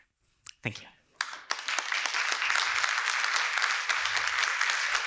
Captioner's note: applause